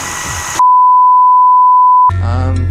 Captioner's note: bars and tone